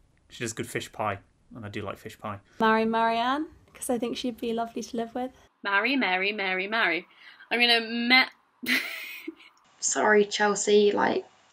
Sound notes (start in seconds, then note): 8.6 laughs